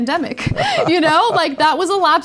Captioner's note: laugh